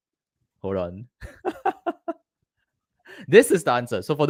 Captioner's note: laughs